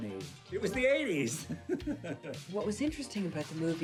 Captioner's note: laughing